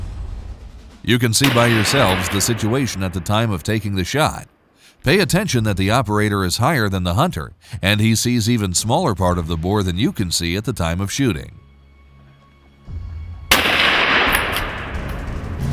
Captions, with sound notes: You can see by yourselves the situation at the time of taking the shot. Pay attention that the operator is higher than the hunter and he sees even smaller part of the boar than you can see at the time of shooting. [gunshot]